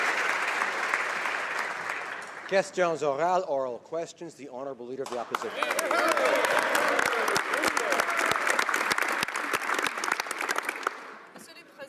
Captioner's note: applause